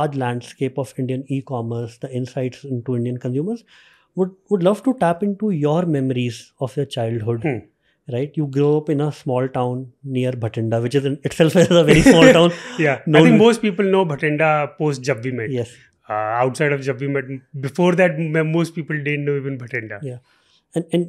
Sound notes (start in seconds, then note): 11.6 chuckles; 11.7 laughing